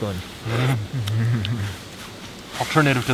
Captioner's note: both chuckling